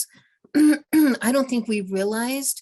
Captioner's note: clearing throat